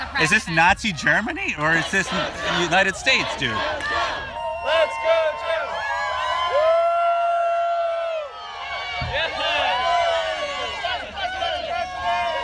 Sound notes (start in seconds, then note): 4.8 crowd cheering